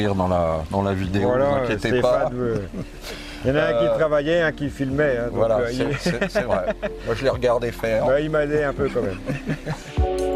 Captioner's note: laughs